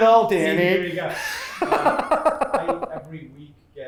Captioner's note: laughs